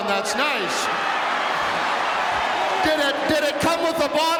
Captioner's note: audience cheering